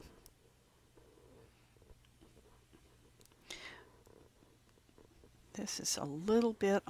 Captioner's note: long pause